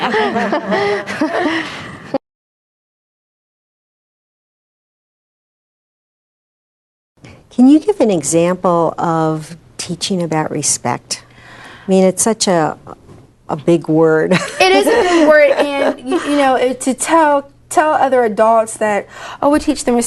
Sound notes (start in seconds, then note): 0.0 laughter from the table; 14.4 laughs